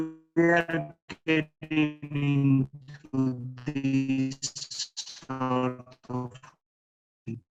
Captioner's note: warped speech